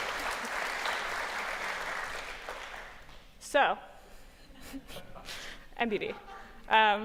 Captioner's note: cheers and applause